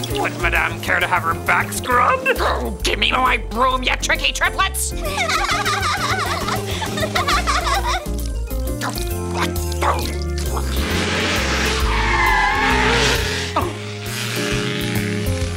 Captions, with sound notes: - Would madame care to have her back scrubbed? - Oh, give me my broom, you tricky triplets! (triplets laughing) (witch grumbling) (tires screeching) Oh.